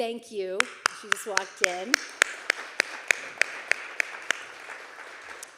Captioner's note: everyone applauding